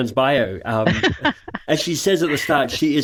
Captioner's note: laughs